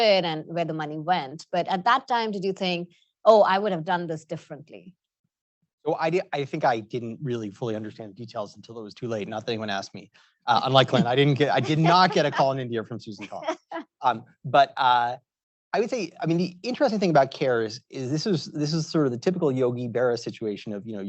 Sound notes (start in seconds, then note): 13.8 laughs